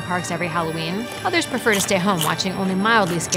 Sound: munching

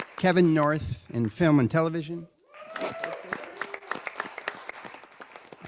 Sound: applause

